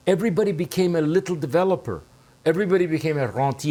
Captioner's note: speaking french